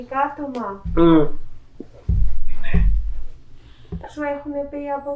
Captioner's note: achmet – artificial male voice